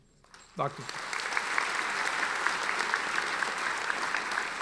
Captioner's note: audience applauding